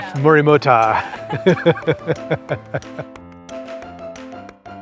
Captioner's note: laughter